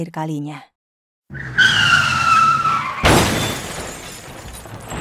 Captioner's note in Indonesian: suara mobil mengalami kecelakaan dan menabrak sesuatu